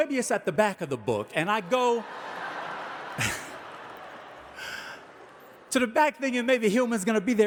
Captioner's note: audience laughing; chuckling